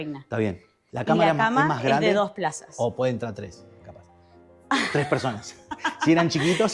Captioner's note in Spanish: risas